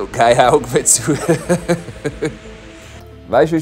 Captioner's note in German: Er lacht